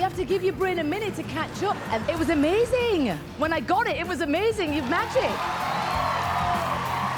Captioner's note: cheering